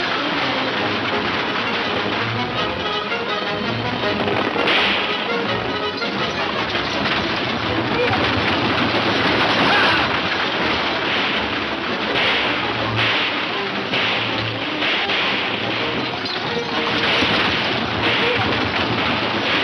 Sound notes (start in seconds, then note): 4.0 gunshot; 5.1 horses gallop; 9.5 men shouting; 11.2 several gunshots